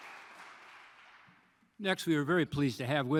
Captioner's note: applause